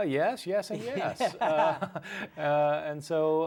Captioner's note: laughs